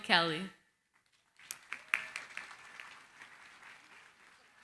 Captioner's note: applause